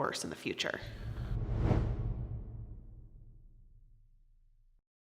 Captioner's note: air whooshing